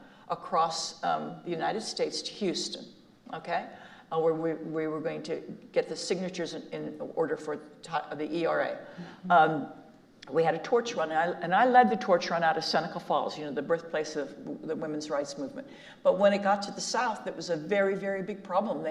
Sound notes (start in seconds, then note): none